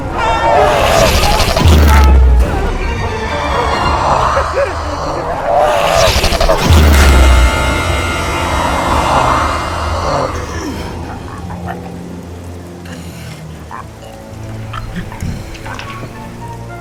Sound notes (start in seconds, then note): 0.1 Bob screaming; 0.9 lights buzzing; 3.1 vampire hissing; 3.5 Bob whimpering; 5.3 vampire screeching; 5.4 lights buzzing; 10.9 vampire gurgling